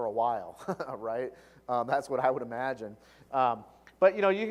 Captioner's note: laugh